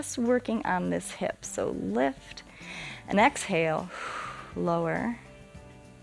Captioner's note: exhales